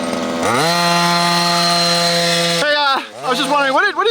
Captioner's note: engine roaring